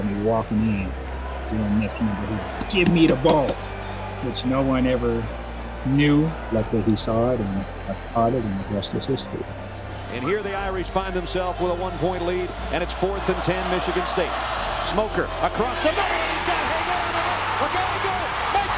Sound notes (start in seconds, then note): 15.6 muffled shouting